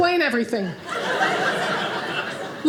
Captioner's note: audience laughing